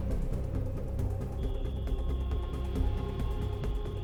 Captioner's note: crickets chirping